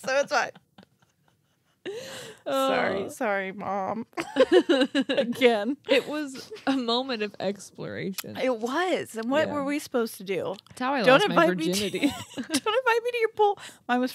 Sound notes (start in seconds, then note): 1.8 wheezing; 4.2 laughing